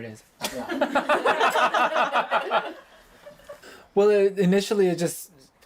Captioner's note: laughter